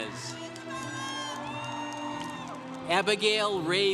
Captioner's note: congregation cheering